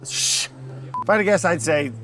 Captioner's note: scoffs